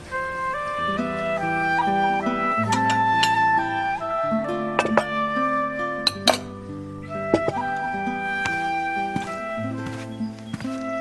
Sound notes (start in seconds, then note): 0.0 melodious music; 1.4 pouring tea; 6.1 footsteps